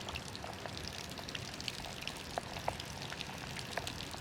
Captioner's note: pouring rain